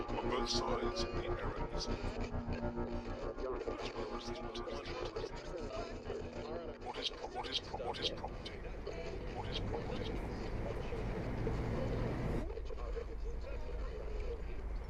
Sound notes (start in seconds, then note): 1.0 radio Announcer; 6.1 voice echoing; 11.3 static crackling